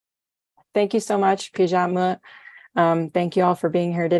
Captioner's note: non-english